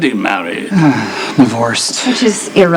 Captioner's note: sighs